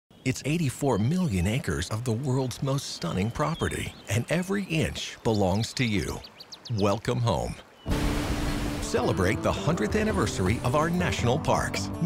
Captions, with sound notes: - [Voiceover] It's 84,000,000 acres of the world's most stunning property and every inch belongs to you. Welcome home. Celebrate the 100th anniversary of our national parks.